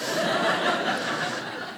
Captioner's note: audience laughing